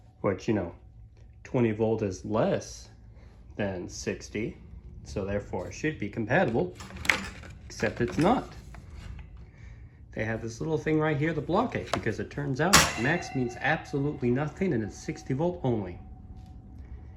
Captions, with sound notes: Which, you know, 20 volt is LESS .. than 60, so therefore should be compatible, [ Metallic thunk ] except it's not! They have this little thing right here that blocks it because it turns out [ THUNK! ] "MAX" means absolutely nothing and it's 60 volt only.